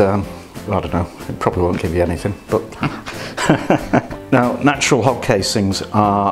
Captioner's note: laughs